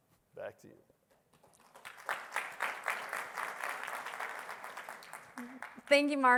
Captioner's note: applause